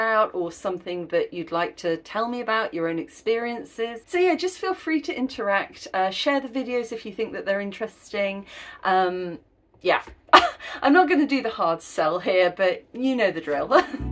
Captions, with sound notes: or something that you'd like to tell me about, your own experiences. So, yeah, just feel free to interact, uh, share the videos if you think that they're interesting. Yeah, [laughing] I'm not going to do the hard sell here, but you know the drill.